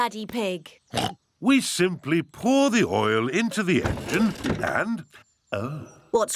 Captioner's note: oinks